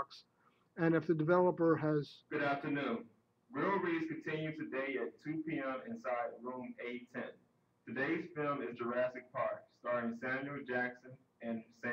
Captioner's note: sudden library announcement over PA system